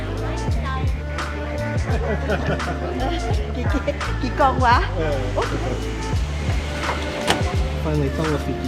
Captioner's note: laughter, oh she said that?